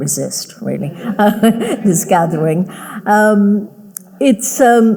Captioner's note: audience laughing